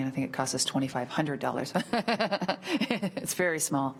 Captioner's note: laughs